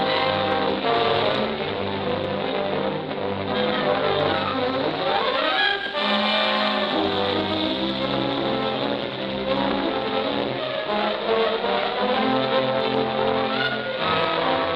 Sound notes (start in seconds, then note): 4.9 dynamite fuse hissing